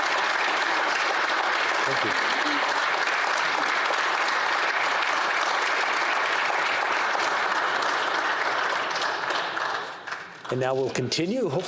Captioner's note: applause